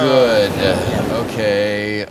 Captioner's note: waves crashing